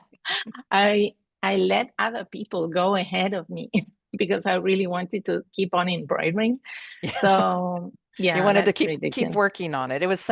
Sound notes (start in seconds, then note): 7.0 laughter